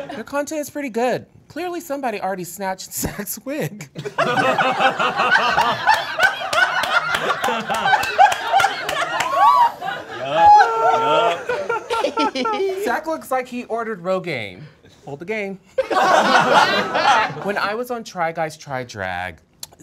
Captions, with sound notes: The content is pretty good. Clearly, somebody already snatched Zach's wig. (all laughing) Zach looks like he ordered Rogaine*, hold the gain. (all laughing) When I was on "Try Guys's Try Drag,"